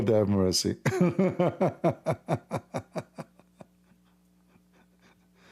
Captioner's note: Ketawa